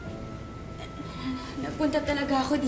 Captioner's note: stammering